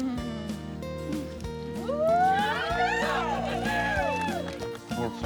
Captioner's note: audience cheers